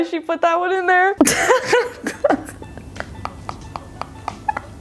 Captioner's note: laughs